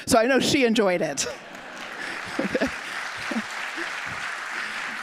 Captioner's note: audience applauding